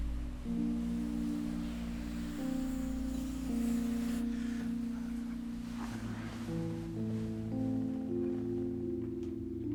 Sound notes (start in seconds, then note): 2.7 truck whooshing; 7.0 gentle music